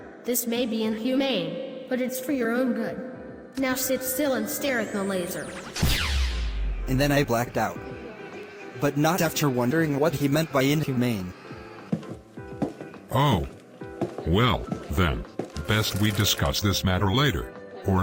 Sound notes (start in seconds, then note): 4.9 zap; 11.2 footsteps